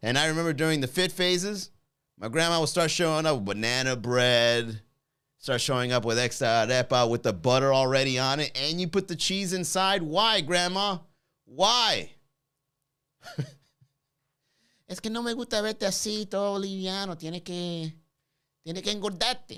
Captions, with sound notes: And I remember during the fit phases, my grandma will start showing up with banana bread, start showing up with (speaks in foreign language) with the butter already on it. "And you put the cheese inside, why grandma? Why?" (chuckles) (speaks in foreign language)